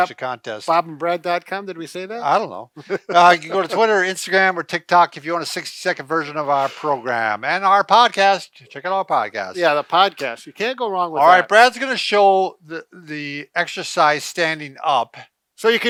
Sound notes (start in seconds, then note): 2.7 laughs